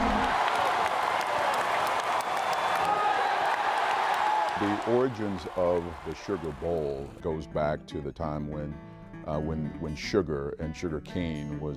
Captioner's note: applause